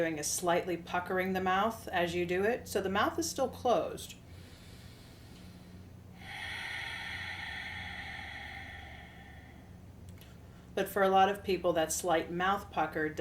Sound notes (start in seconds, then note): 4.3 inhales; 6.1 exhales